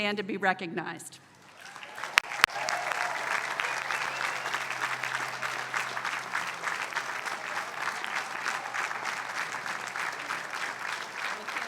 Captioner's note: applause